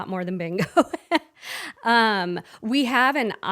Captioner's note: laughing